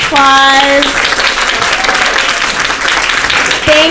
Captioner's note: applause